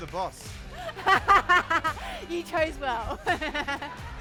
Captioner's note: laughing